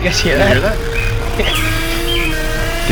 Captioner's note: chuckles* I'm in danger